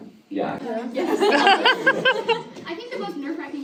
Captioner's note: audience laughter